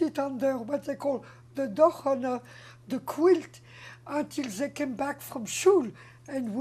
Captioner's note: non-english